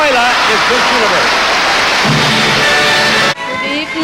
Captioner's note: crowd cheering and applauding